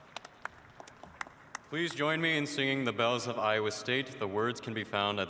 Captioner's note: applause